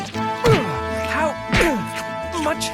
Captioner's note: grunting